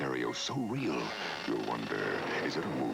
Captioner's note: door creaks